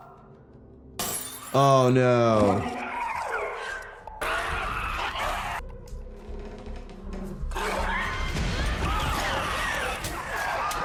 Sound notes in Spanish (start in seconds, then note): 1.0 vidrio roto; 2.6 chillidos infectados; 7.8 Ellie gruñendo